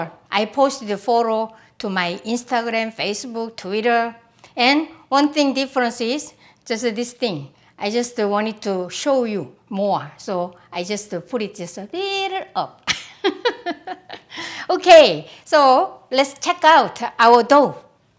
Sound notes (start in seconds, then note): 12.9 laughs